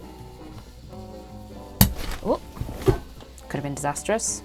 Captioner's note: crash